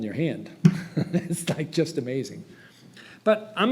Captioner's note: laughs